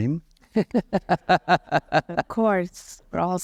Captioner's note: laughter